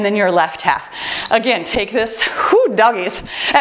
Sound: timer beeps

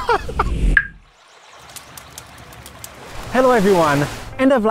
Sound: laughs; screen whooshing

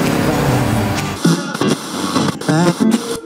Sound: radio static crackles

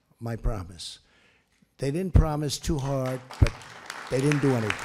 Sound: applause

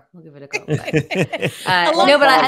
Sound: hosts laughing

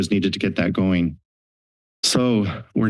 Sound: silence

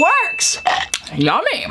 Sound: bell dinging

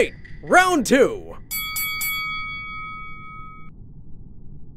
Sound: bell rings

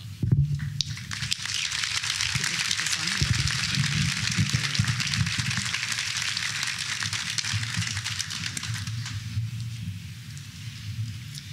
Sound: applause

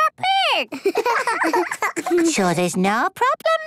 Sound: giggling

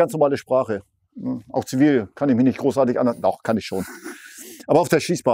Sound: giggle

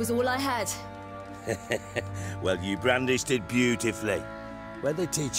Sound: chuckle

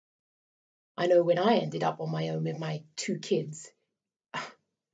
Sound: sighs

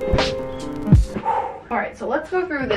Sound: soft music; exhales loudly

